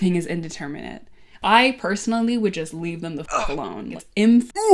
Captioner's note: grunt